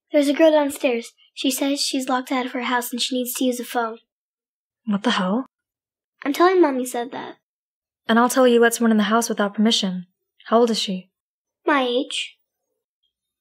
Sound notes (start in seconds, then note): none